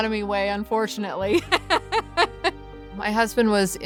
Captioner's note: laughs